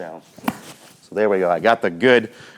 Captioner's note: club swinging